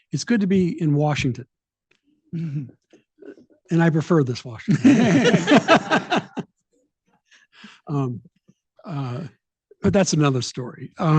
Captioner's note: laughing